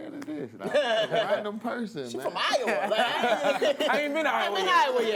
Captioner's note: laughs